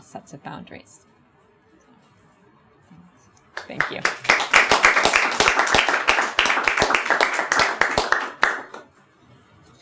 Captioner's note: audience applauds